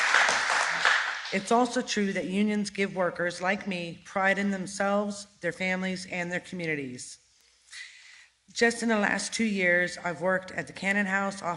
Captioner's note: crowd cheering